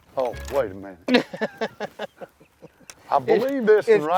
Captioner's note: laughs